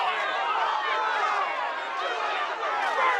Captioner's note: crowd shouting